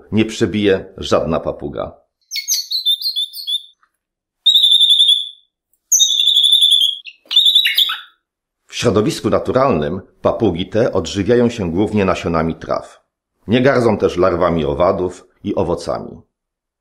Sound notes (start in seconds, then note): 2.4 parrot singing